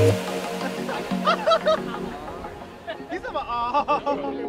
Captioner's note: laughing